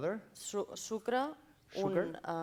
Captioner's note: non-english speech